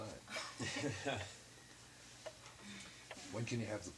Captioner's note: laughing